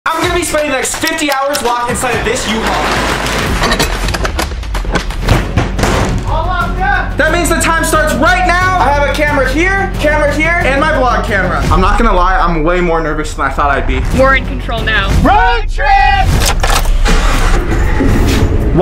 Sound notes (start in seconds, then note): 3.1 U-Haul door rattles; 5.4 door bangs; 17.2 engine roars